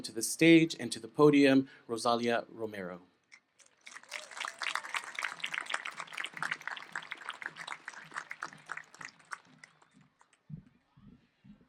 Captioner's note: applause